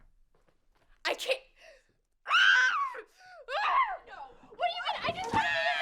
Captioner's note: screams